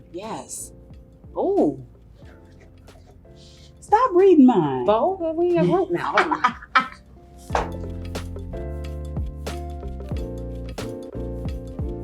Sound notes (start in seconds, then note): 5.5 laughs; 9.1 gentle music